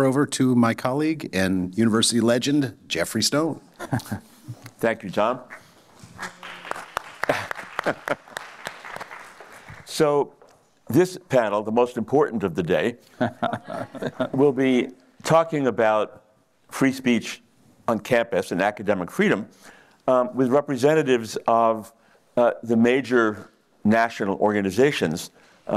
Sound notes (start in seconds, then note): 6.0 applause